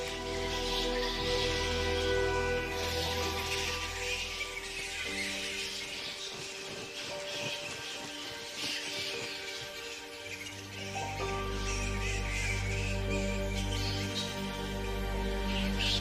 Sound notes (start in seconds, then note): 0.2 mysterious music; 6.1 wings flapping; 9.9 squeaking